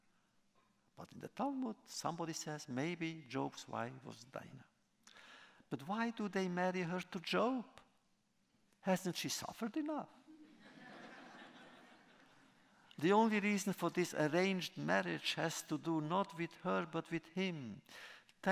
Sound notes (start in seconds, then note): 10.3 laughter